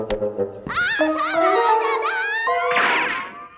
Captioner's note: woman speaking loudly in the background